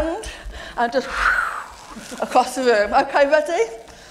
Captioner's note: whoosh